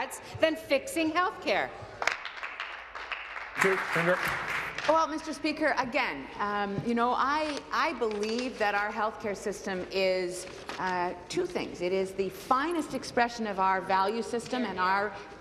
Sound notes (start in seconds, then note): 4.7 applause